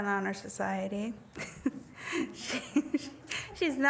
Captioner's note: laughs